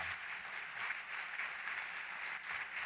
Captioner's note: applause